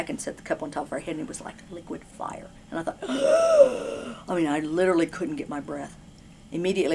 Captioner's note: gasp